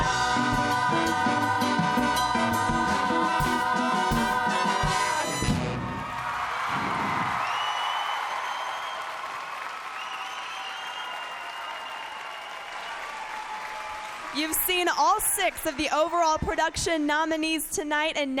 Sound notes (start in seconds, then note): 5.6 cheers and applause